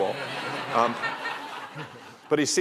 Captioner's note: laughter